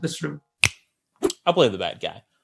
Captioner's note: snaps